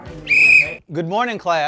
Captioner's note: upbeat music; whistle blowing